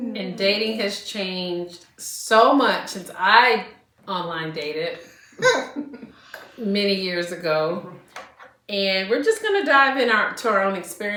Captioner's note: laughter